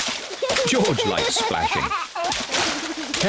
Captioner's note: giggles